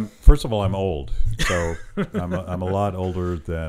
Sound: laughing

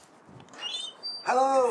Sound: door creaks

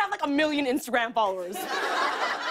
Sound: laughter

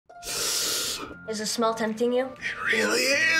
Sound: sniffs

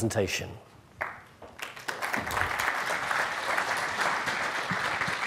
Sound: audience clapping

